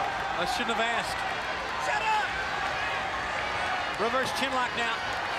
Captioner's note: crowd chatter